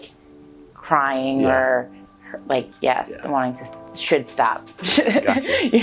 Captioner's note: laughs